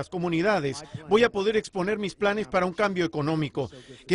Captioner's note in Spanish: habla en inglés